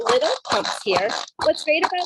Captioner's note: plastic cranking